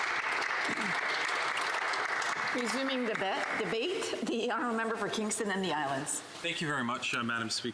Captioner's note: some applause